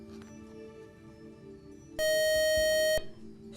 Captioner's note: buzzer